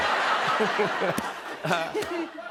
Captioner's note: laughter